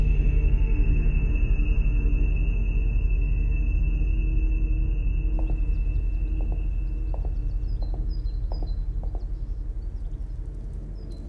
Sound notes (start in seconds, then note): 5.3 birds chirping; 5.5 gentle tense music